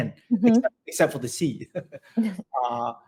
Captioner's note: laughs